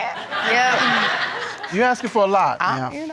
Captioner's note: audience laughing